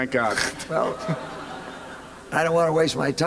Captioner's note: laughter